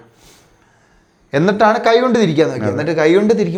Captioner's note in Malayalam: ചീറ്റുന്നു